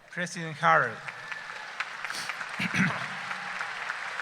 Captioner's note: cheering